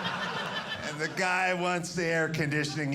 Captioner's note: audience laughing